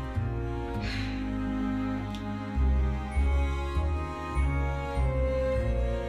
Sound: deep sigh; gentle music continues

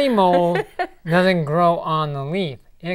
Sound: laughing

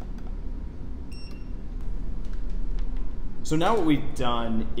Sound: meter beeps

